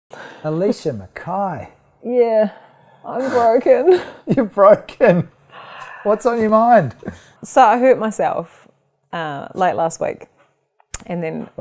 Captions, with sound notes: - Alicia McKay! - Yeah, I'm broken. (laughs) - You're broken? What's on your mind? - So, I hurt myself late last week, and then--